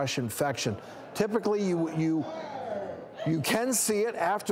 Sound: audience groans

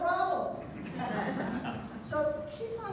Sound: laughter

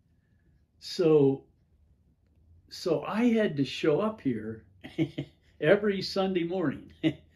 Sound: chuckles

